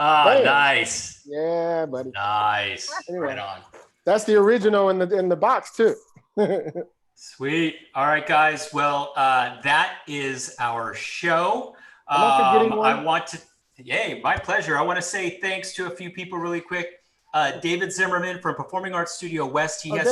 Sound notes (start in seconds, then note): 6.3 chuckles